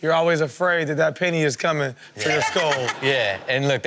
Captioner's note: Chanel laughs